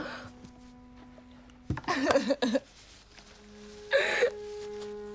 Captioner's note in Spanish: solloza